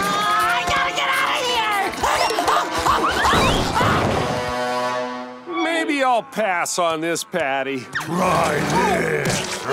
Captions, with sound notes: I gotta get out of here! [screaming] Maybe I'll pass on this patty. Try this!